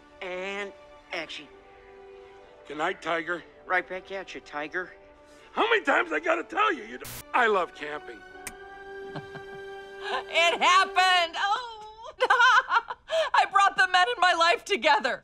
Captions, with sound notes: And action. Good night, tiger. Right back atcha, tiger. How many times I got to tell you, you don't -- [ Static crackles ] I love camping. [ Light switch clicks ] [ Laughs ] It happened! Ohh! [ Laughs ] I brought the men in my life together!